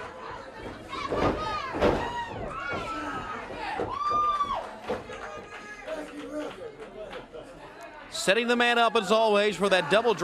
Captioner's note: crowd cheering